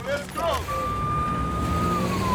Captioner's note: police sirens wailing